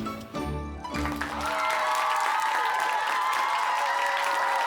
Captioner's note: clapping and cheering